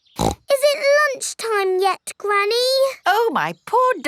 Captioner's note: snorts